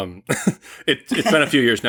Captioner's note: laughter